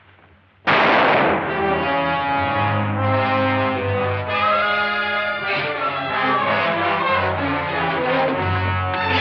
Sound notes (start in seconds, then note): 0.6 tense music; 0.6 gunshot